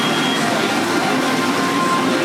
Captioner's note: arcade sounds